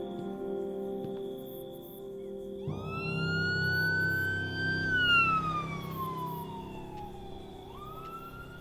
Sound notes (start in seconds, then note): 2.7 sire blares